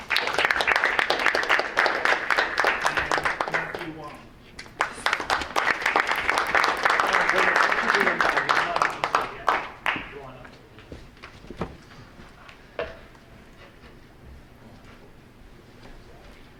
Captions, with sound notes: (audience applauding) And Matthew Huang. (audience applauding)